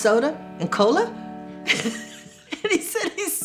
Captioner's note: laughs